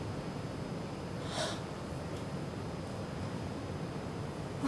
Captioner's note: gasps